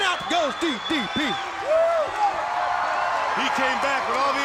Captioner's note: crowd cheering